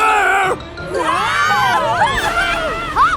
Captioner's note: yelling